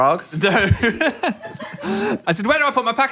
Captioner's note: laughs